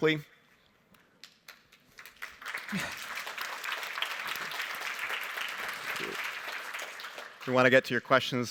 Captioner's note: applause